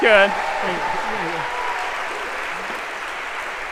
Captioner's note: applause